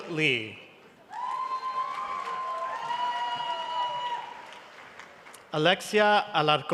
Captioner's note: cheering and applause